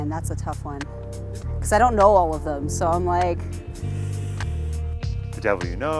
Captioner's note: sighs